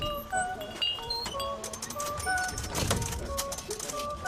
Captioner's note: register clicking